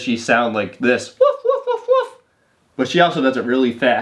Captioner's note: imitating dog barking